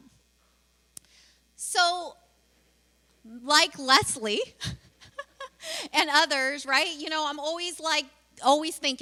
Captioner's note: laughs